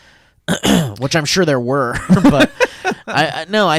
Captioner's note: clears throat; laughs